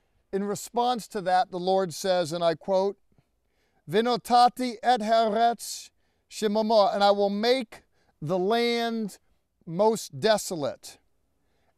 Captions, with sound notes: in response to that, the Lord says, and I quote-- [speaking in Hebrew] 'and I will make the land most desolate,